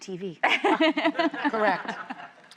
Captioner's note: laughing